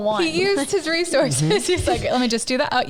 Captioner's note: giggles